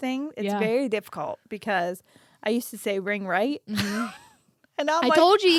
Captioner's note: laughs